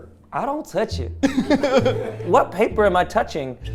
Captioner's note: everyone laughing